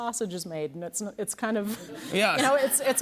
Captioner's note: laughter